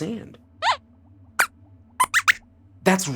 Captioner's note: squeaks squeaks